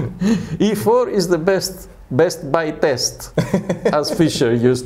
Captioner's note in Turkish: Karşılıklı gülüşmeler; Gülüşmeler